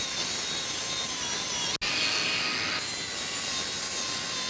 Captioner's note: grinder grinding